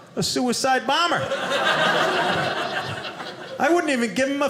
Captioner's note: audience laughing